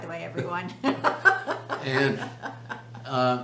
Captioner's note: laughs